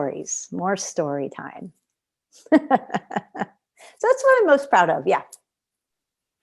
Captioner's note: laughter